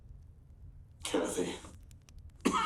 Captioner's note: coughs